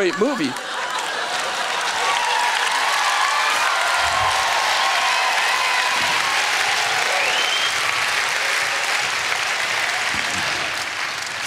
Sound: cheering

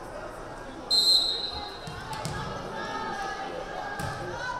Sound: whistle blaring

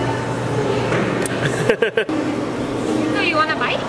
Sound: laughing

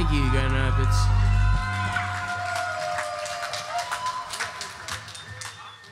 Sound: audience cheers and applauds

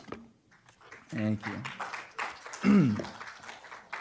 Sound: applause

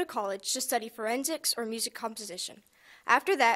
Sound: none

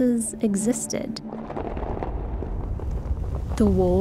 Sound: walls rumbling

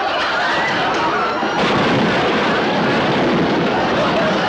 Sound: loud crashing noise; audience laughs

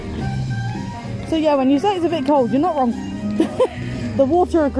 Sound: laughs

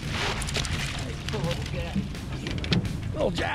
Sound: fish splashing

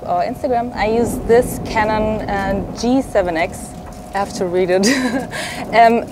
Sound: laughs

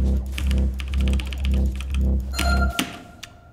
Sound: keys clacking; rhythmic orchestral music; character whining; timer ringing

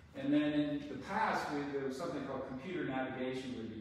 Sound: none

